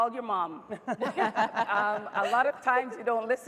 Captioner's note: laughing